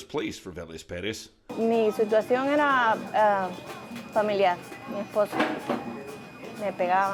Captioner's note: speaking in Spanish